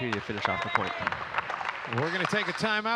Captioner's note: audience clapping